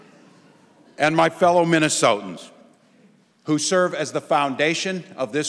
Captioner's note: laughing